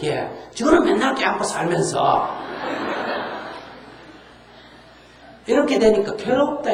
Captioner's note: audience Laughter